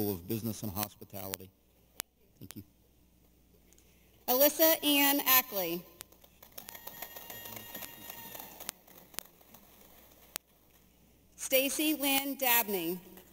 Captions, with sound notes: of Business and Hospitality. - Alyssa Ann Ackley. (audience applauding) Stacie Lynn Dabney.